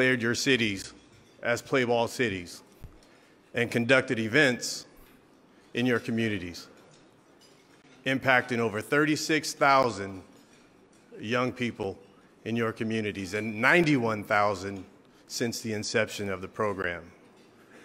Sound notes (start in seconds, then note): none